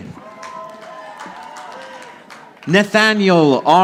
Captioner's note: audience applauding